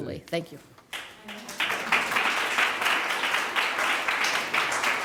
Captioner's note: applause